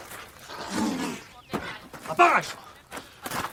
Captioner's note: growling